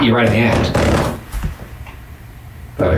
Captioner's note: floor creaking